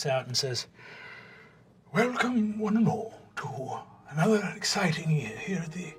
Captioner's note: old wizard voice